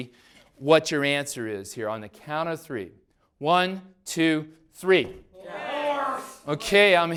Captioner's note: class yells responses